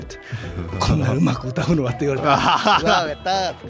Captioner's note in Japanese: 笑い